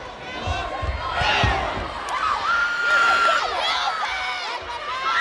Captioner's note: players yelling